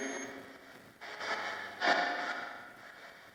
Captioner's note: sustained ringing tone ends; static crackles